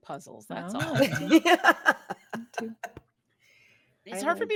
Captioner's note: cast laughing